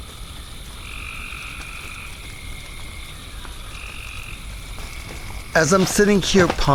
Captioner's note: crickets